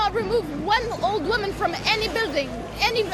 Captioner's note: none